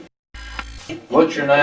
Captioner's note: static fizzing